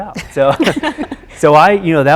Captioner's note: chuckles